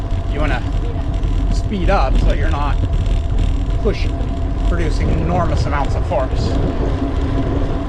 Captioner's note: pedalling